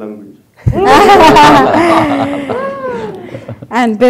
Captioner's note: laughter